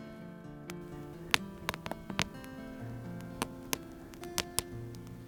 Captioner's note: fire crackling